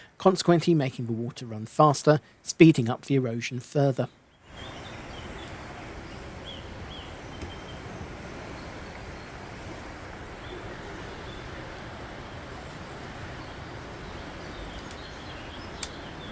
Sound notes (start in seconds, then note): 4.4 sound of rushing water